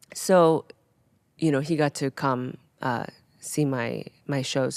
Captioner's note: none